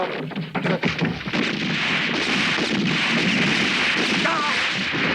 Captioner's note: guns roaring